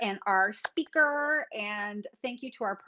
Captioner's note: claps